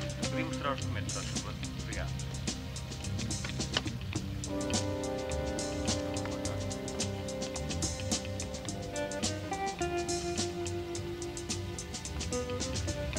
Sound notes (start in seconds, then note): 1.1 speaking foreign language